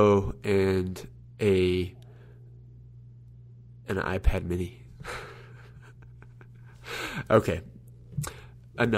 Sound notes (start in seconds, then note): 5.0 laughs